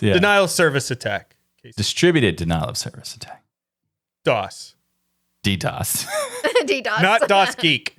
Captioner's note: laughing